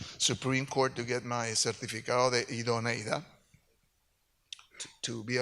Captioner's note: speaks in Spanish